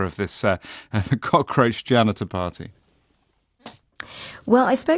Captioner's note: chuckles